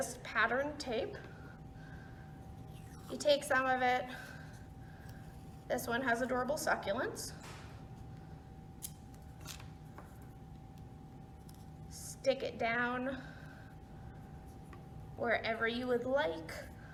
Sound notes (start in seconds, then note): 7.2 sound of tape ripping